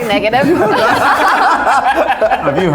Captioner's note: all laughing